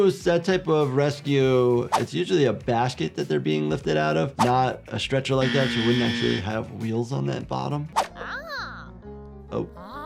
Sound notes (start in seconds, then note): 5.4 buzzer buzzing